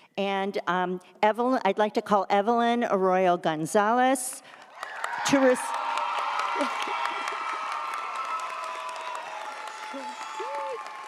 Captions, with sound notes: and I'd like to call Evelyn Arroyo Gonzalez (audience cheers) (audience applauds)